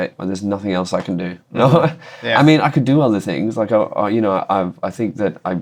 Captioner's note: laughter